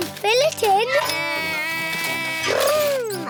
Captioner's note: edmond elephant makes beeping sounds